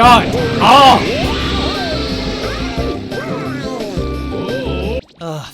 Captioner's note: obnoxious character chatter